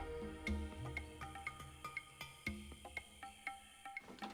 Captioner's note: insects Buzzing, Chirping